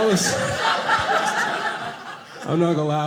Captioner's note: audience laughing